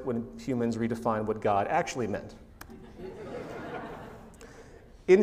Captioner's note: laughter